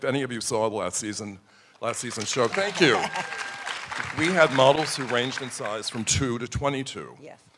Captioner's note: applause